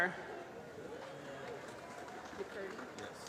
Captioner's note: applause